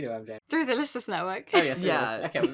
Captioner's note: laughs